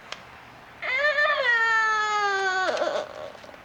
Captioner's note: andrea crying